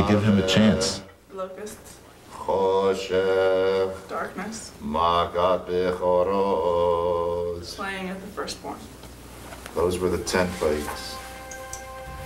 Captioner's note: reciting plagues